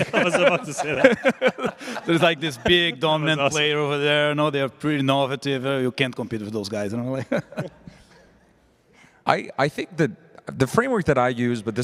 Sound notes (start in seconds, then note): 0.0 laughter; 7.2 laughs